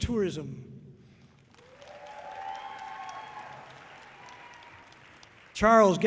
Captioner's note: audience cheering loudly